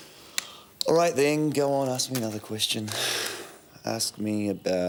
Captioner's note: sighs